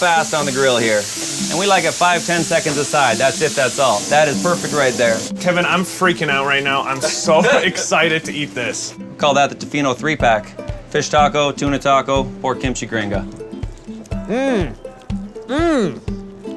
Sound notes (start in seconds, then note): 6.9 laughs